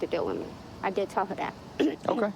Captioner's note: clearing throat